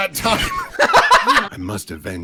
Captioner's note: laughter